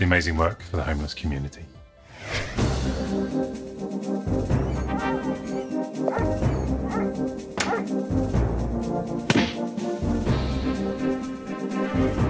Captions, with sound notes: And keep up the amazing work for the homeless community. (dramatic music) (dog barking) (door opens) (paper whacks)